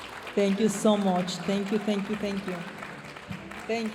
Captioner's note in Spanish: aplausos de la audiencia; hablando en inglés; aplausos de la audiencia